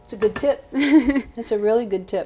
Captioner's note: laughing